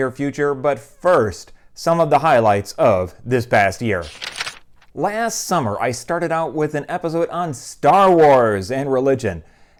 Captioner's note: page turning